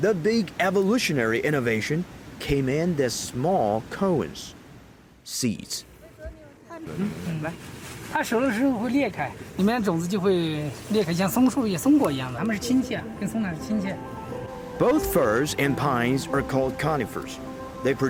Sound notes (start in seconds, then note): 6.1 speaking in foreign language